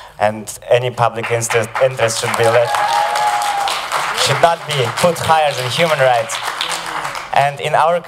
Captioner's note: applause